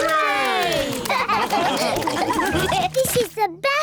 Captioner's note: all laugh